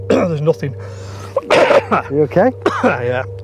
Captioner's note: coughing